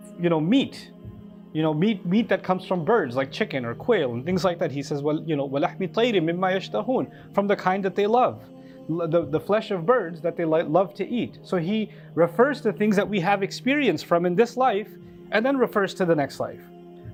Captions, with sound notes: You know meat You know meat Meat that comes from birds like chicken or quail and things like that He says well you know (Arabic) from the kind that they love the flesh of birds that they love to eat So he refers to things that we have experience from in this life and then refers to the next life